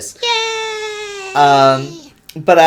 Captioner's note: high pitched, childlike squeel